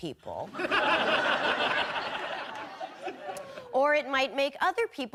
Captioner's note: audience laughing